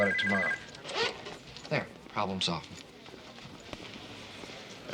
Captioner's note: phone stops ringing